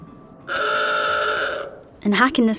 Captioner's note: gate beeps